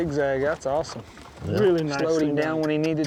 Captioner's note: all chattering